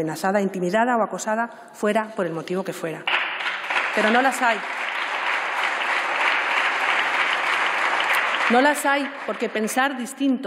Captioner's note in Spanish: Aplausos